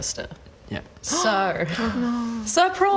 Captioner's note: gasp!